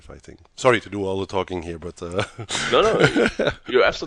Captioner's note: laughs